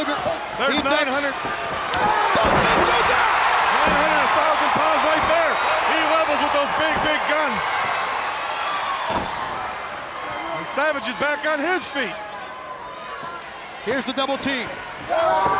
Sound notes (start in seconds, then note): 1.3 body slamming; 1.9 crowd screaming; 3.0 Tony screaming; 14.8 wrestlers screaming